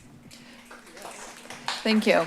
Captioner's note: applause